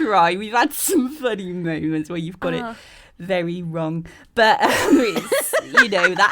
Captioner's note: all laugh